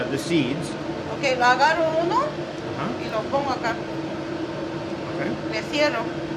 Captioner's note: speaking in foreign language